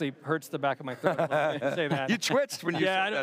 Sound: laughing

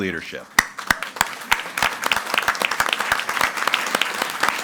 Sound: audience applauding

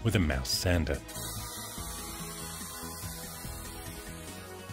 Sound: sander buzzing

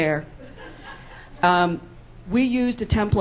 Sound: laughs

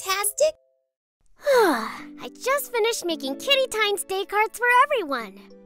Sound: exhales

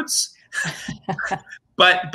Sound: laughing

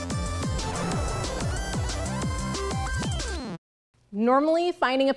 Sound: upbeat music; rocket whooshes

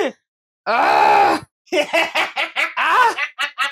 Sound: evil laugh

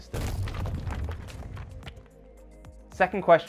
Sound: lines crashing

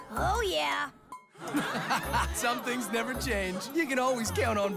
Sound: laughing

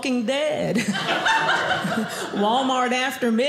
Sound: audience laughing

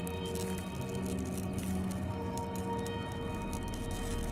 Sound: sound crackling

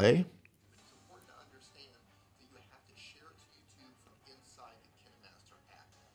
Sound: video talking in background

